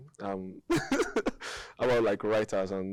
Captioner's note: laughing